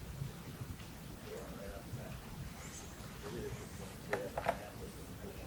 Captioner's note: audience chatter